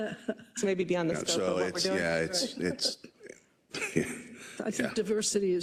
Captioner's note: laugh